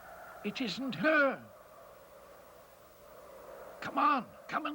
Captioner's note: wind howls softly